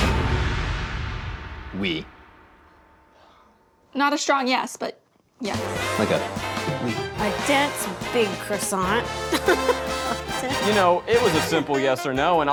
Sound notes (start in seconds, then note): 9.2 laughs